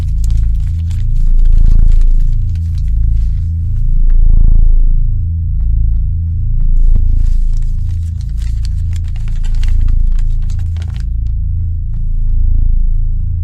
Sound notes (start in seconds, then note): 3.1 rustling; 10.3 deep bass music